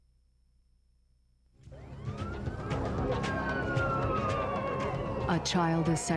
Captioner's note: sirens